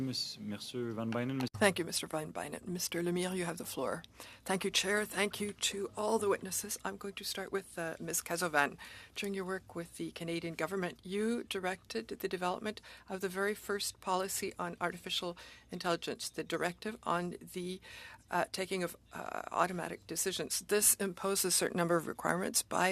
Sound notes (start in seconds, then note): 4.2 speaking FRENCH